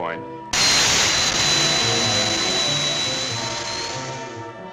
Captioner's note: rocket hissing